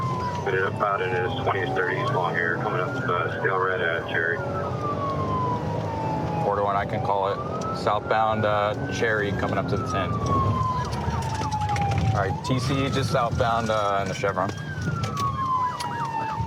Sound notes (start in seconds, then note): 10.0 sirens